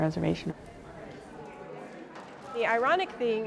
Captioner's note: crowd murmuring